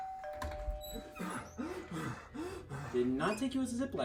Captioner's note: doorbell rings; heavy breathing